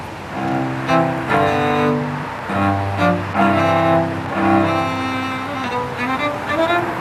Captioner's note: cars passing continues; classical cello music